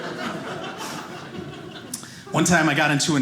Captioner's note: audience laughing